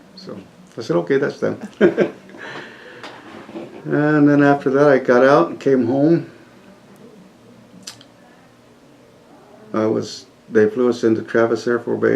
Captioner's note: laughs